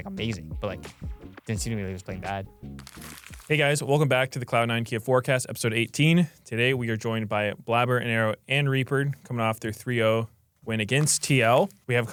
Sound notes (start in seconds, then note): 2.7 paper rustling